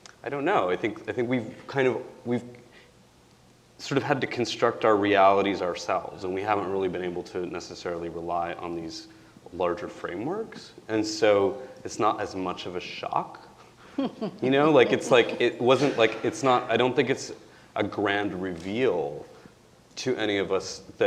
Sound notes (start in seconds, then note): 13.9 chuckling